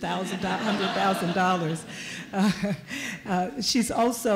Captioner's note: laughter